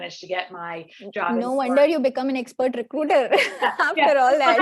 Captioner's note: laughs